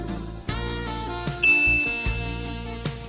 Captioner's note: beep